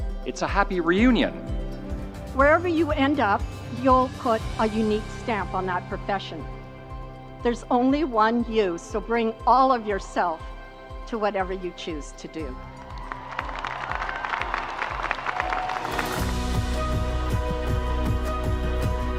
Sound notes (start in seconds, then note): 12.6 crowd cheering; 15.2 uplifting music